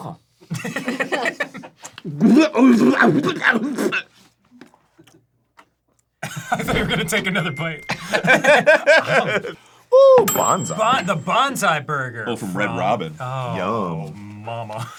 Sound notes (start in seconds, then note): 0.5 laugh; 2.1 aggressively spits out the burger; 7.9 the boys laugh